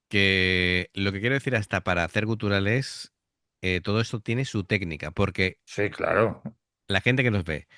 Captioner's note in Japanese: 喉の奥から声を出す